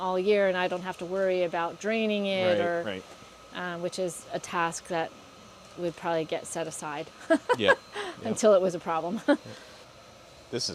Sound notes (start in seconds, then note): 7.2 laughs